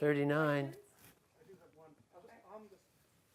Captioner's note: voiceover